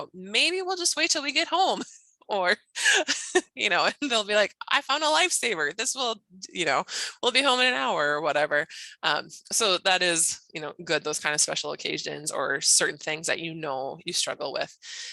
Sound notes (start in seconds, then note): 2.8 laughs